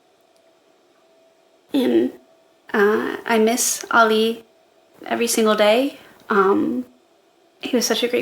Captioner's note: shaky voice